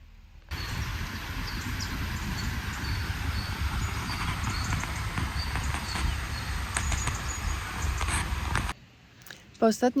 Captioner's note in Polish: Śpiew ptaków